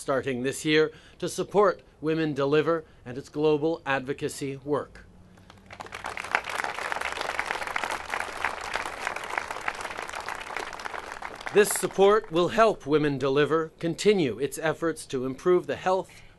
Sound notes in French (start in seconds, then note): 9.2 Applaudissements